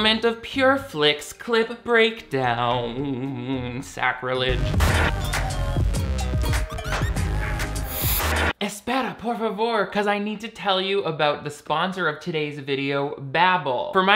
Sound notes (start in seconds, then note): 3.6 upbeat music; 8.5 speaks in Spanish